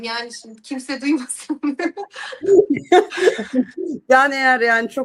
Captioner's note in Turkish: kahkaha